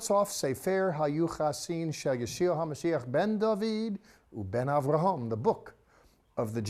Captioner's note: speaking in Hebrew